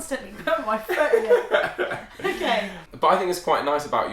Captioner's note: laughs